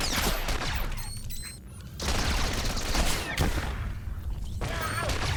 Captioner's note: gunshots